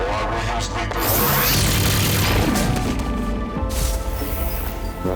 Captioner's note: gun firing